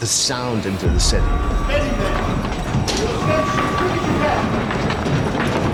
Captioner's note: alarm; people yelling